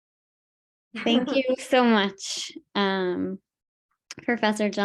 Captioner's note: laughing